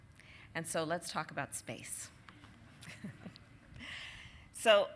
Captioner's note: laughter